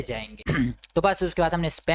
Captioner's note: clears throat